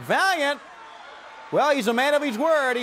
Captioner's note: crowd cheering